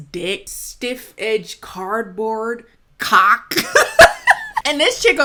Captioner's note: chuckling